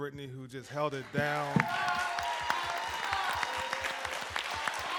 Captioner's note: applause and cheering